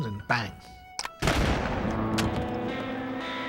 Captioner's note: gunshot